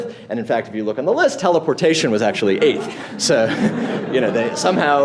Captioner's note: laughing